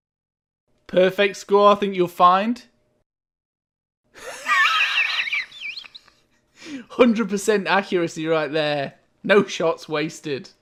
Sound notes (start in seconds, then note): 4.2 laughing